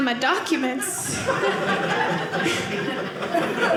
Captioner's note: audience laughing